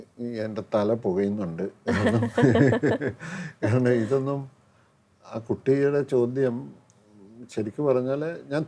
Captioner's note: laughs